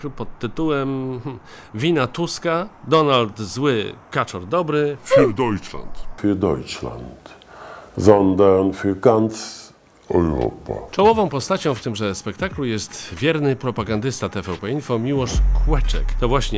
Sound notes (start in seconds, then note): 6.4 Tusk speaking german